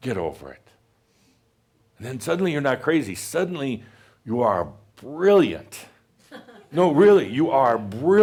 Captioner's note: a few chuckles